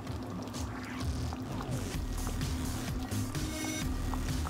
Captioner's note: sound of stew boiling